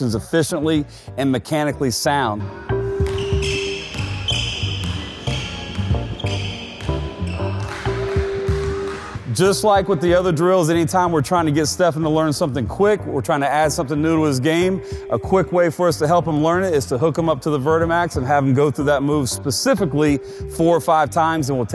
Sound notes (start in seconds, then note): 3.0 squeaking; 7.6 clapping